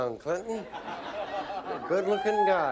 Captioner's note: laughter